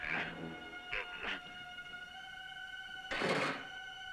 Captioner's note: grunting; tense music